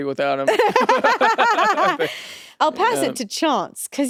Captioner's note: both laugh